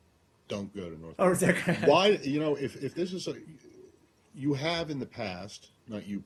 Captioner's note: laughter